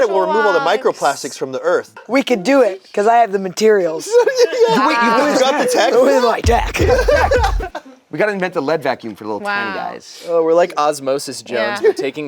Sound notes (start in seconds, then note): 4.2 laughs; 7.0 group laughs